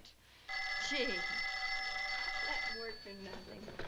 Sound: telephone ringing

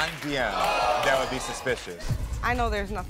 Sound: audience ohs

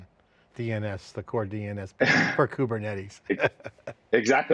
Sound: laughs

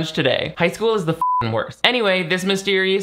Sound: beep

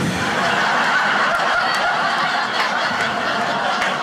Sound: audience laughing

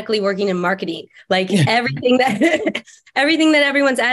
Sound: laughs

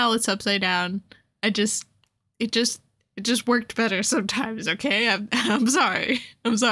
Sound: laughter

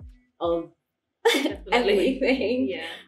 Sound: laughs

